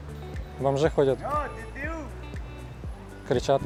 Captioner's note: swears something in French